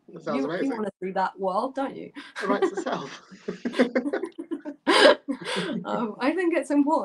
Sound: laughter

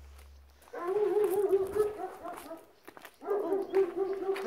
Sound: dog sound

